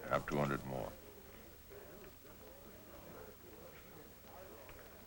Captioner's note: chatter